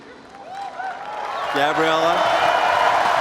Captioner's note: cheers and applause